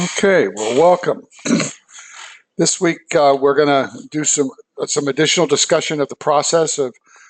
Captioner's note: cough